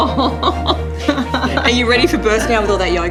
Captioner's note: laughter